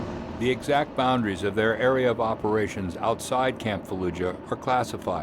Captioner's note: voiceover